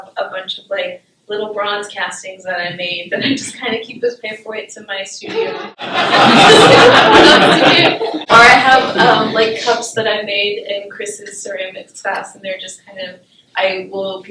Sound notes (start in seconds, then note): 5.3 laughter